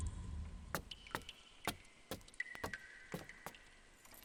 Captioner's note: goose feet claping on the stone floor and water droplet sounds